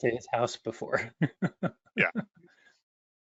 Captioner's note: laughter